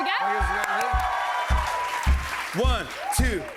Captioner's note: cheers and applause